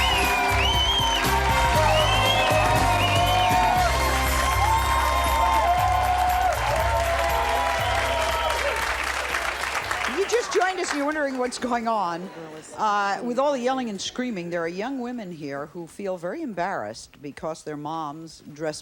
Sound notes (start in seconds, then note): 0.3 calm jazz music; 1.9 audience cheers